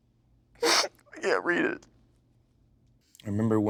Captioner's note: sobbing